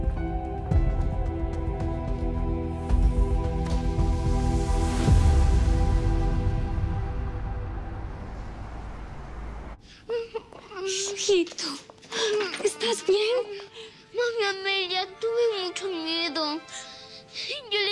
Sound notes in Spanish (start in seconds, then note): 9.9 Sollozos